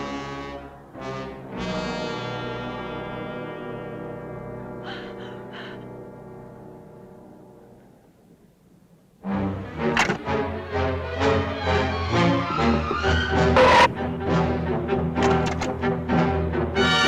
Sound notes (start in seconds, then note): 1.0 worrying music; 4.8 gasping; 9.3 tense music